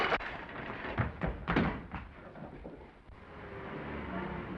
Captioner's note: plates shattering; footsteps receding; engine rumbling